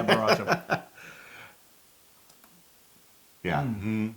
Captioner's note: laugh